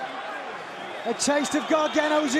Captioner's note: crowd cheering